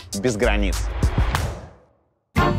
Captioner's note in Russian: хлопок